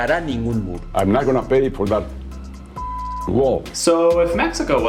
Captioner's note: beep